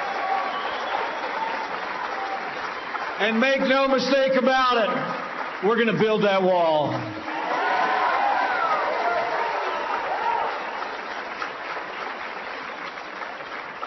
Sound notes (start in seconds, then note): 8.5 applause